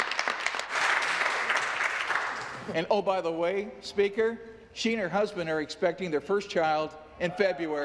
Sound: applause

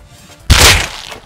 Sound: bam

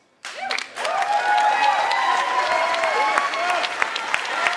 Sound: attendees cheering and applauding

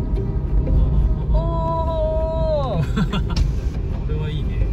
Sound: laugh

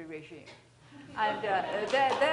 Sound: laughter

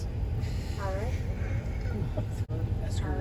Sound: laughter

